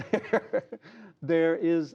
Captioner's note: laughter